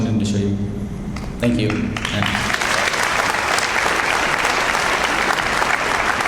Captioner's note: audience applauds